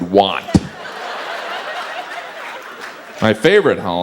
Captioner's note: audience laughs